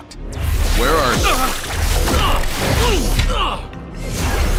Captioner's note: groans